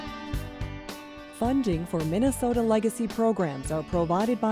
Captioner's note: voiceover